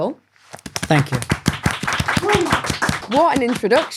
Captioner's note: audience applauding